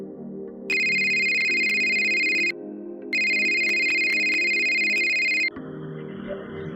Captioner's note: phone ringing